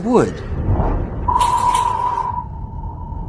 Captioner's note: sirens